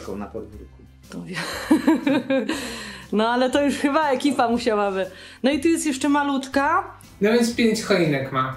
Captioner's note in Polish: śmiech